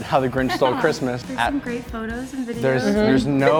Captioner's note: laughs